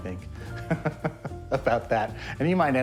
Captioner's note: laughs